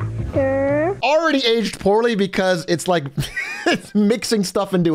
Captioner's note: laughs